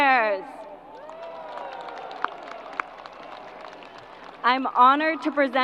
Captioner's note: crowd applause